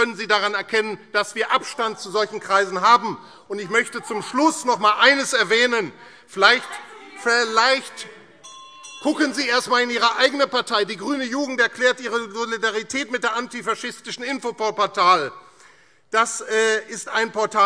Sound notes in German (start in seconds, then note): 3.3 Weitere Zurufe - Glockenzeichen